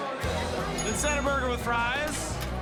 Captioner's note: bell dings